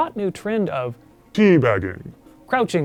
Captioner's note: deep, distorted voice